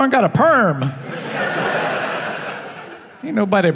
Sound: laughing

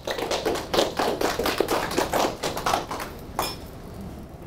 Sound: audience applause

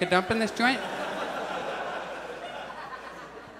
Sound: audience laughs

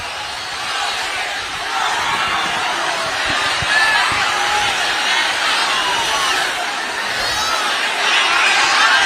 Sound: applause

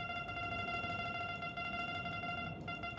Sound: beeping

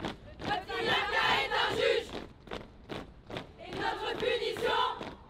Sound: speaking foreign language

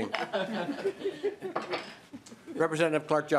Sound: laughing

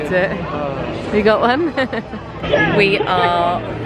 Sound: laughing

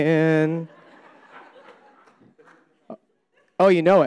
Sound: audience laughing

